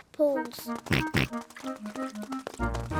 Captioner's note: oinks